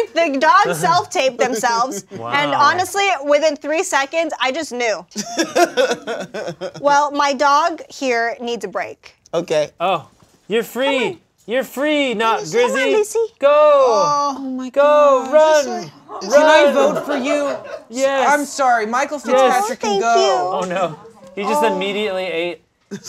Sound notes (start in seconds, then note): 5.1 laughing